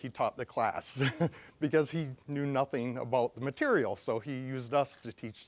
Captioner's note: chuckling